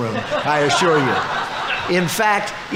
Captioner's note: audience laughing